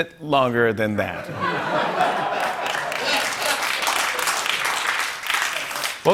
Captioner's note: laughter and applause